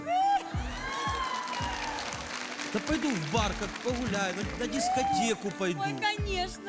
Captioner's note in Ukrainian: оплески